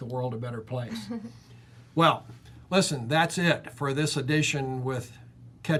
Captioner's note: chuckles